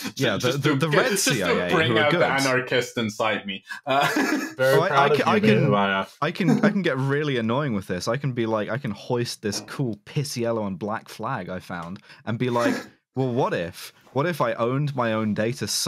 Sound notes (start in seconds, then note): 3.8 laughter